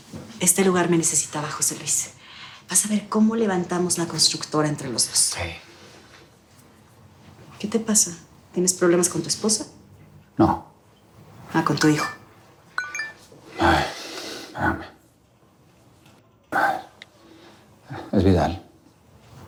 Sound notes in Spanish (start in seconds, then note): 12.8 Aviso de mensaje